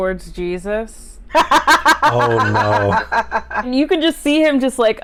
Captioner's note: laughter